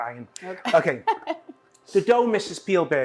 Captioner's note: laughs